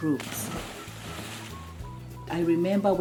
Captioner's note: water splashing